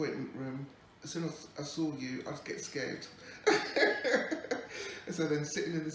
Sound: laughs

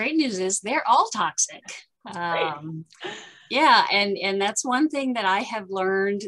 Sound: laughter

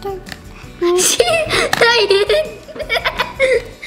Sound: laughter

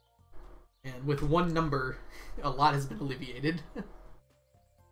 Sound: chuckles

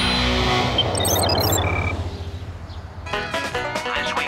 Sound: computer sounds; banjo music

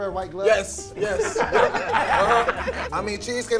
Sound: laughs

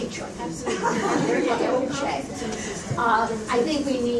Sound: all laugh

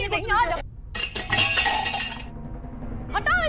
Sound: clanking

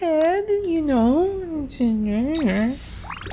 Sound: whiny voice

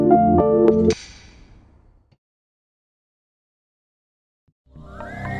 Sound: upbeat music; silence; electronic music

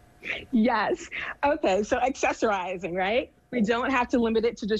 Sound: giggles

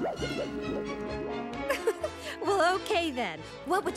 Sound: laughing

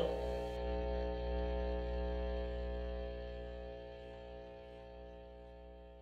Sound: microphone feedback

